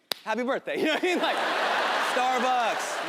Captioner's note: audience laughing